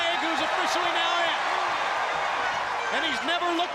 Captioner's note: crowd cheering